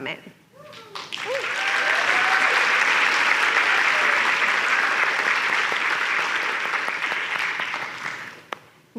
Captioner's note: cheers and applause